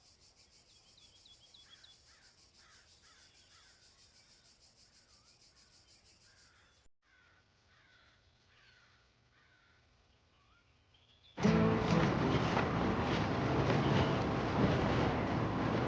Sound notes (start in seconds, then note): 2.5 birds chirping, cawing; 11.4 upbeat music